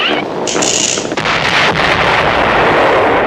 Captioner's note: explosion